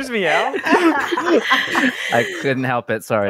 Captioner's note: group laughter; laughing